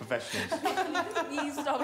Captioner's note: attendees laughing